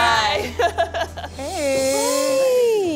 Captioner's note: laughter